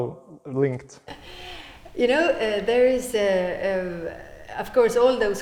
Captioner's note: gigles